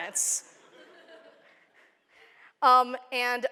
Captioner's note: laughter